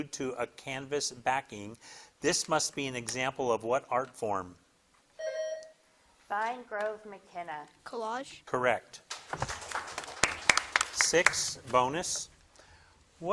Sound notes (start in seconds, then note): 5.2 buzzer dings; 9.1 crowd claps